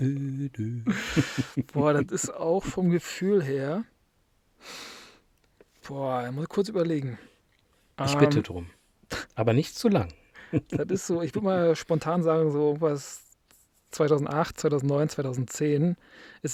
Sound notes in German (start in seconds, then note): 0.8 gelächter; 4.7 schnauben